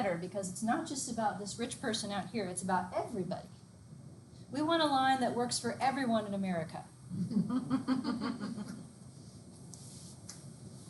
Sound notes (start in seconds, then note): 7.7 students laugh